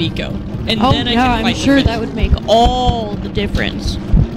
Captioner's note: mocking